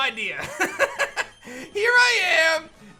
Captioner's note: laughs